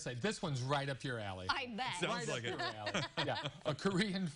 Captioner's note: laughter